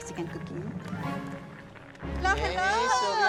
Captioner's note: liquid bubbling